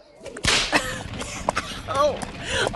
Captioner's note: coughs